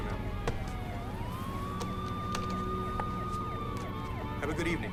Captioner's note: sirens wailing